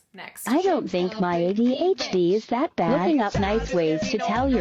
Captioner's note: computerized Voice